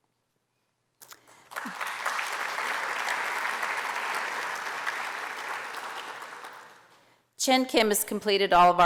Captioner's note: applause